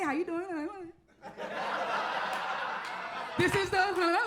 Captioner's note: audience laughs; warbles